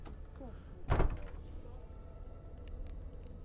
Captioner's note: door shuts